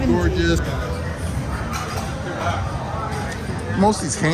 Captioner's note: people chattering